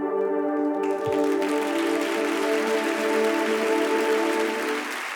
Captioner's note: audience applauding